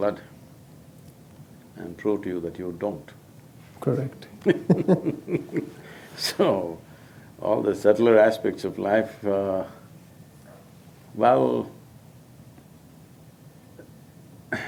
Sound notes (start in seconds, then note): 4.4 both Laugh